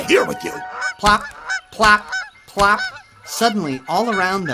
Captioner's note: birds chirping